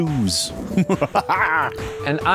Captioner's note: maniacal laughter